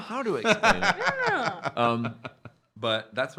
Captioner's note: laughing